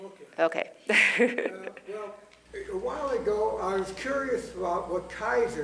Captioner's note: laugh